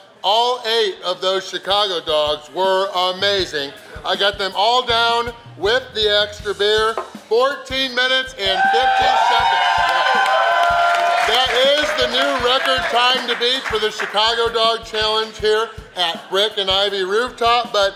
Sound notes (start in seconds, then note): 8.5 crowd applauding; 9.8 crowd cheering